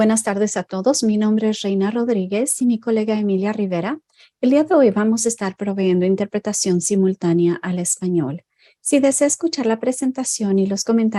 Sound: Spanish

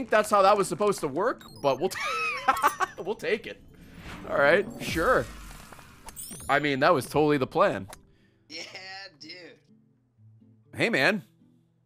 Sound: laughs

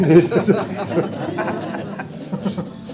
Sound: laughter

